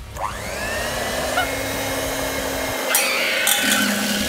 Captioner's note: whisk whirring